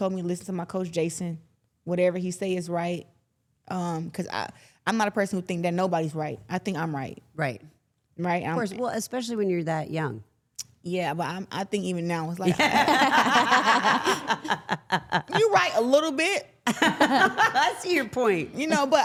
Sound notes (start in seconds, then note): 12.5 laughs